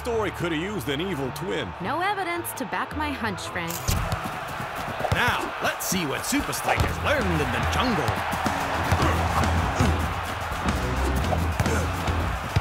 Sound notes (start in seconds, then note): 3.7 camera shuttering; 8.1 crowd cheering; 11.5 grunting